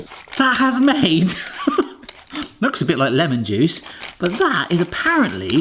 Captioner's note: chuckles